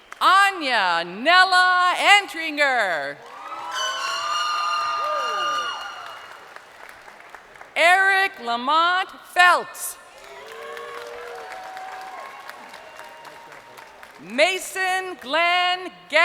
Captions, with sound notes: (crowd cheering) Anya Nella Entringer. (crowd cheering) (horn blasting) Erick Lamont Felts. (crowd cheering)